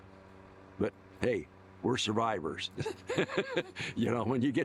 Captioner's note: laughs